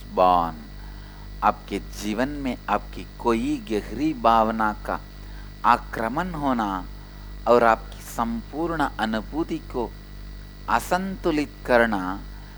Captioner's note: hindi